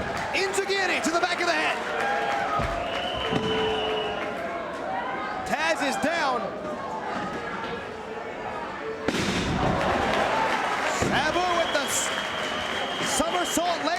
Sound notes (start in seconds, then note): 2.1 spectators applauding; 9.5 spectators cheering and applauding